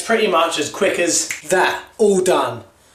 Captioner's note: snaps